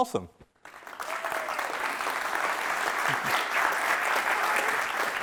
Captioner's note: audience applauding